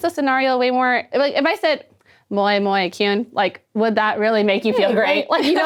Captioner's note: speaking foreign language